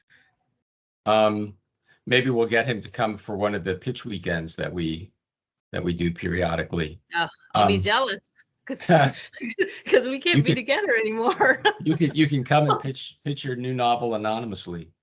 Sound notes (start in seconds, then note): 8.8 laughing; 11.4 laughing